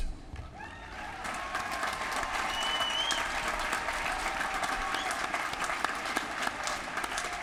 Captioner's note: applause